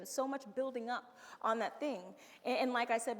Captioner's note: none